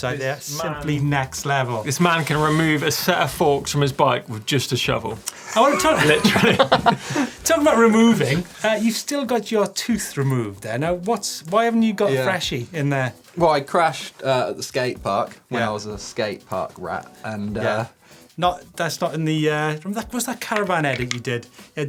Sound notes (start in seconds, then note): 5.4 laughter